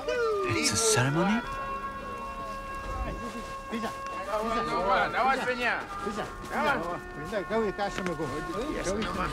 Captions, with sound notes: It's a ceremony? [chatter]